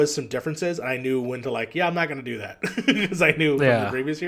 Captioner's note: laughs